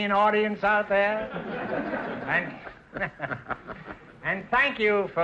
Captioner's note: laughing